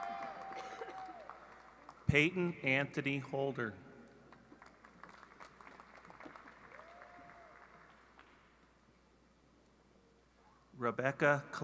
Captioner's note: cheering and apause